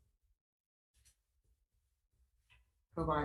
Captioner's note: none